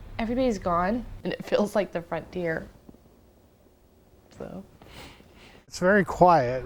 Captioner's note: sniffle